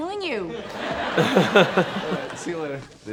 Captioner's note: audience laughs; laughs